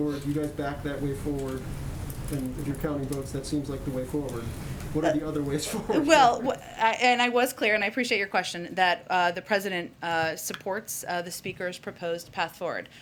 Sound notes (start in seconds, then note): 5.6 laughs